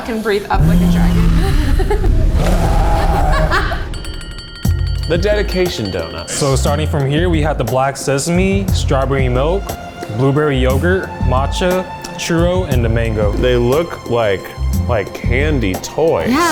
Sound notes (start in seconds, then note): 1.2 laughing; 1.7 fire blasting; 3.6 bells ringing